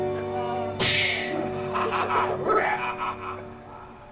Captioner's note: maniacal laughter